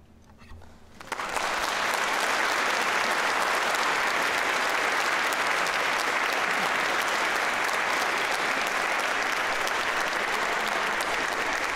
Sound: applause

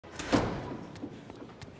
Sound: door closes

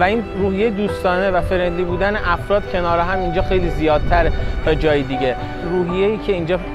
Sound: speaking in foreign language; voiceover

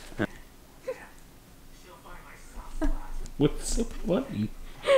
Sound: laughing

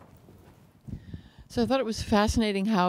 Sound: voiceover

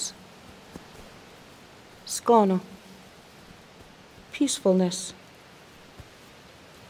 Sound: Speaking Kanienʼkéha

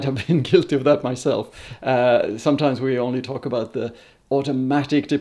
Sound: laughs

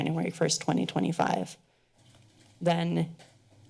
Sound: pause

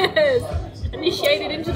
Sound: laughing

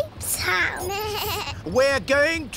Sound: suzy bleats

